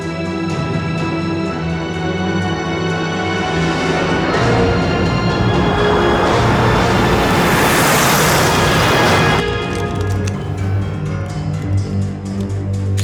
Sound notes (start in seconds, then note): 0.2 suspenseful music; 9.6 gun clicking